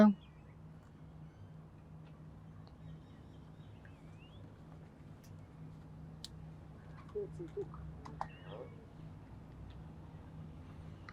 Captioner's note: pauses 10 seconds